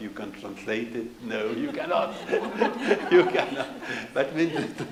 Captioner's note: laughs